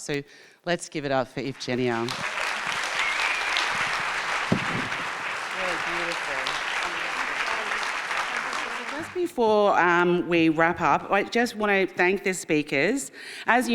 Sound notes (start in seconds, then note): 1.6 audience applauding; 7.6 applause drowns speakers